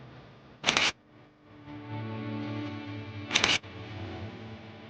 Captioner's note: camera clicking